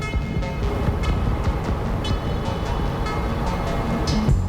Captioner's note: road murmurs